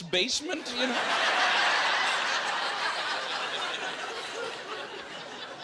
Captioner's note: laughing